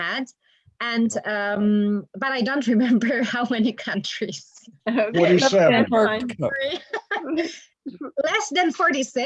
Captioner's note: laughter